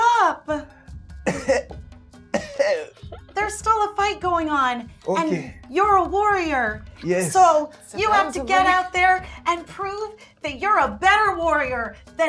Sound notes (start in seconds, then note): 2.3 Ekon coughs